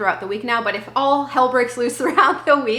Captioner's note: laughing